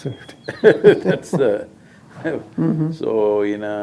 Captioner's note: laughs